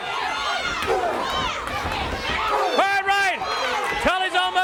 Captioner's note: crowd chatter